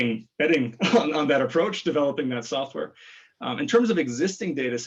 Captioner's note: laughs